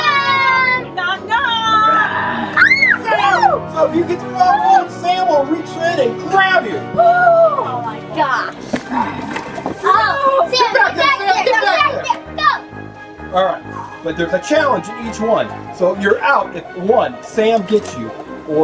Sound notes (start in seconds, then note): 1.8 growls; 1.9 girl screams